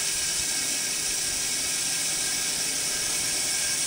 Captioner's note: saw whirring